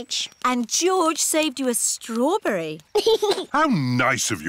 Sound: giggles

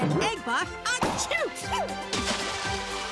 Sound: sneezing

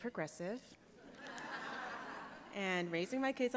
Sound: laughter

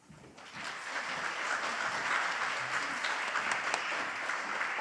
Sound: audience applauds

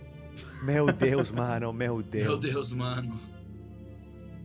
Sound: in Portuguese

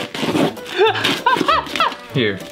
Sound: laughter

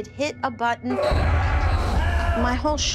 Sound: screams

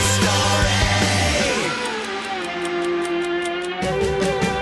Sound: ticking

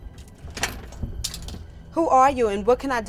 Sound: door handle clicks

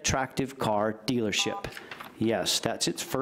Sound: beep

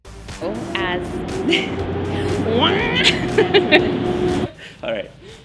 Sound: truck whirrs in background

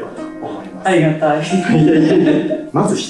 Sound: laughs

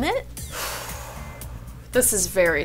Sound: exhales deeply

